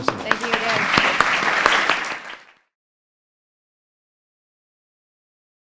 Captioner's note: audience applauds